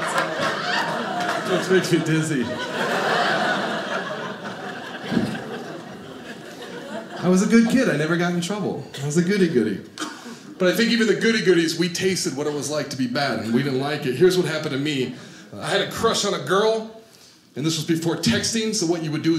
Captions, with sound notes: It makes me dizzy. (audience laughing) I was a good kid I never got in trouble. I was a goody-goody, but I think even the goody goodies we tasted what it was like to be bad and we didn't like it. Here's what happened to me. I had a crush on a girl and this was before texting so what you would do is